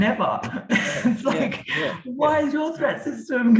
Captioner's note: chuckles